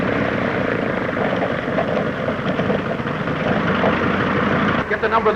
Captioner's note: engine sputtering